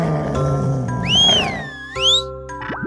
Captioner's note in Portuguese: steveson assobia